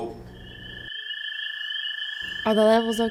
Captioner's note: insects chirping